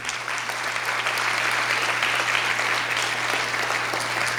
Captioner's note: audience claps